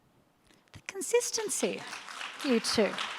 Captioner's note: audience applauds